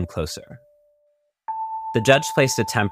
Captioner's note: clock ticking, tension rising